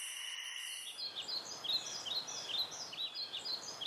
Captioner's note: birds chirp